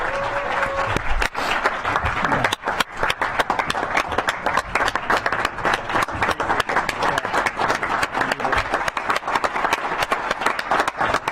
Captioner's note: clapping